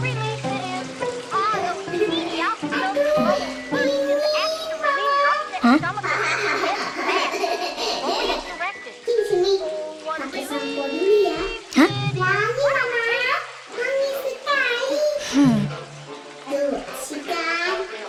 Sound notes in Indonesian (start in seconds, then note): 5.6 Rarra tertawa dari dalam kamar mandi